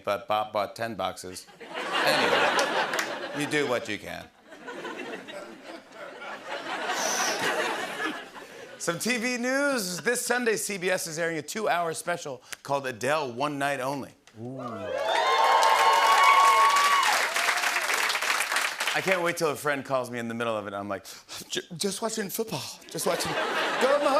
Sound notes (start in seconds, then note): 1.7 laughter and applause; 4.4 laughter; 16.4 cheering and applause